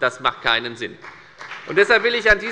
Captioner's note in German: Beifall bei der FDP